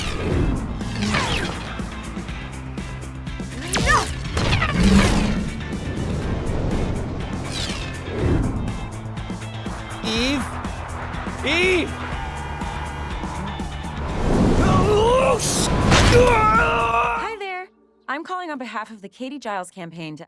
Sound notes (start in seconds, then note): 12.8 upbeat music; 16.0 Mark screams